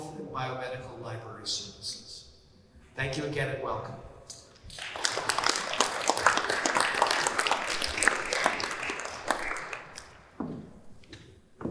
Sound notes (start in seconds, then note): 4.6 applause